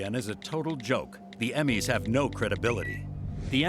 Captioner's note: Twitter chime